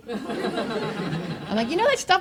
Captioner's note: audience laughs